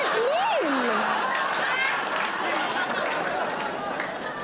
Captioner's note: audience laughing